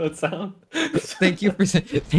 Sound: laughing; laughs at his own joke

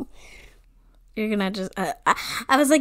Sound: laughs

